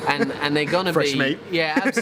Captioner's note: laughing